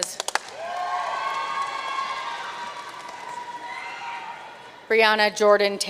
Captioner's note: audience cheering and applauding